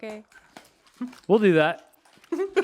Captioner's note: giggling